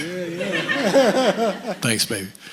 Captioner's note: chuckles